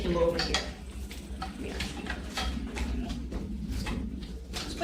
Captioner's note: wheels rattling